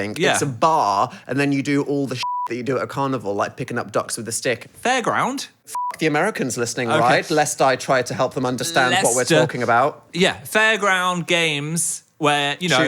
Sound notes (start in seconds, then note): 2.2 beep; 5.7 beep